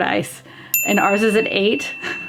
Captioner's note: bell dings; laughs